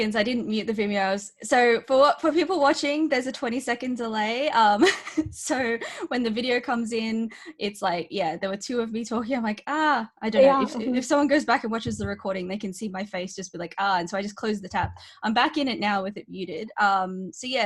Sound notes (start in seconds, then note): 4.7 chuckling